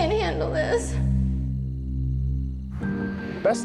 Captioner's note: insects chirping; ominous music